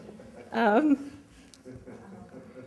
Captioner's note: laughter